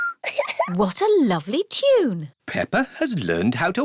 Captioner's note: whistles a tune; giggles